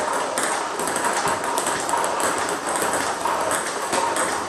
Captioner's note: ball ping pong hitting continues